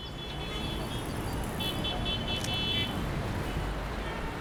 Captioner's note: cars honking